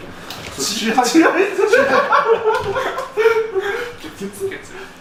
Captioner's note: laughs